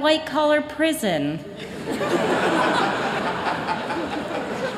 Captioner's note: laughter